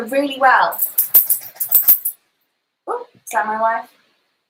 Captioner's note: cellphone jingles